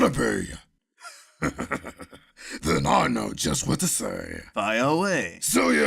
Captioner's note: chuckles